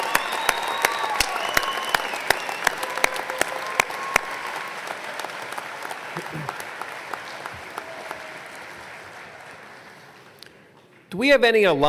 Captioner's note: applause